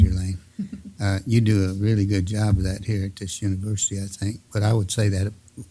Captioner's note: laugh